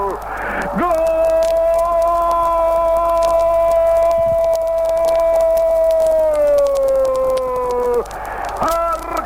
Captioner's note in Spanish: Gooooooooooool